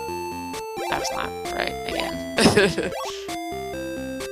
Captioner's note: laughs